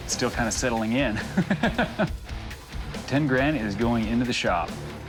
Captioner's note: laughs